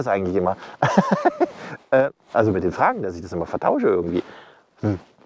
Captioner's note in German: lacht